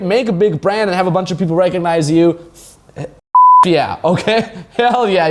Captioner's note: beep